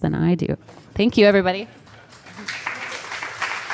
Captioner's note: applause